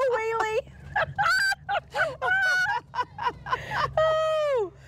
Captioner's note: laughing continues